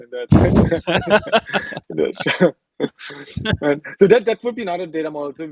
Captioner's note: laughing